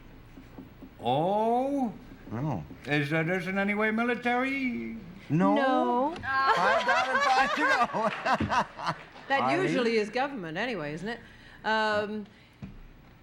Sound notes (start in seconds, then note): 9.2 laughter